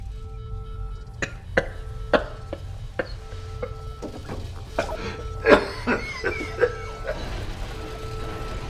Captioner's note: laughing; coughing